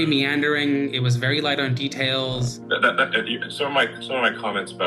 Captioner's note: stammers